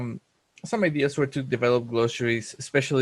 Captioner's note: voice muffled